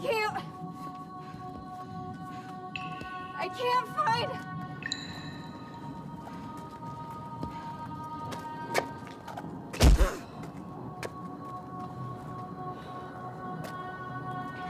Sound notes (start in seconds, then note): 9.8 Abby gasps; 9.8 soft thump; 11.7 peaceful music